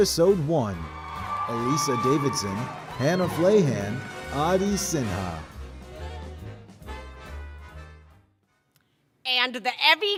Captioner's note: applause